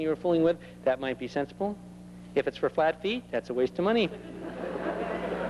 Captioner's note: laughter